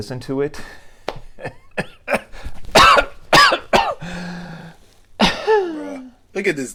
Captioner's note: couging